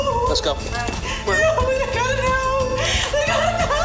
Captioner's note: crying